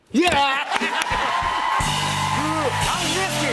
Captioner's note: cheers and applause